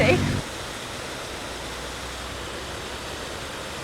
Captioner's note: waterfall